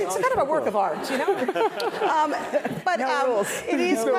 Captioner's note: laugh